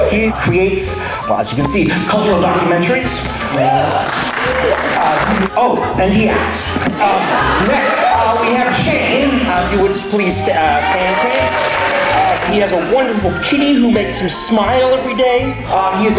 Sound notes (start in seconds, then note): 4.0 a few more cheers; 6.8 crowd laughs